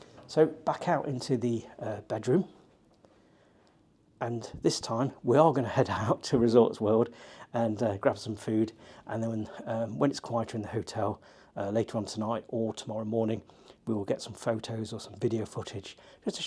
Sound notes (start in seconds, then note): none